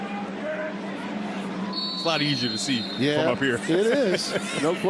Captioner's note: whistle blowing